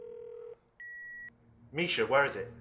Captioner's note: phone beeping